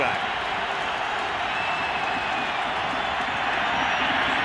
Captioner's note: cheering